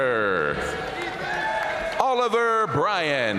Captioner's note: audience cheering and applauding